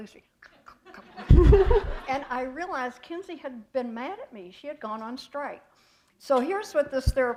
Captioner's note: chuckle